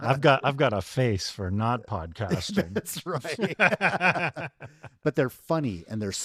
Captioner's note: laughs